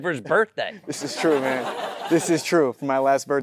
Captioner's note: audience laughing